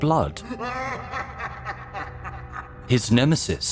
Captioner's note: laughing manically